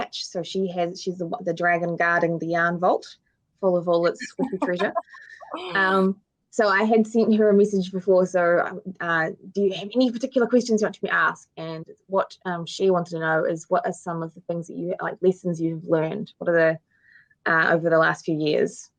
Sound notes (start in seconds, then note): 5.6 woman giggling